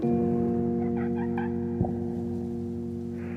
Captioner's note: girl laughing